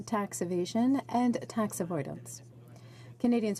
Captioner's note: speaking french